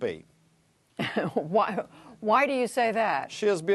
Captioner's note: laughter